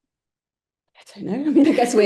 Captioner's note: laughter